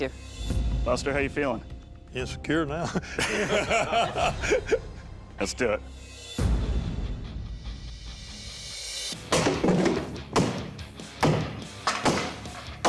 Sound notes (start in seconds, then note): 2.8 laughter; 5.9 suspense music; 9.0 clatters